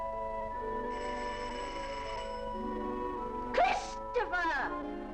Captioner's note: doorbell rings